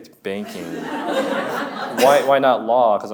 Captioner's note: audience laughs